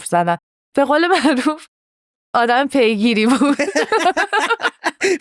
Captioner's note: laughs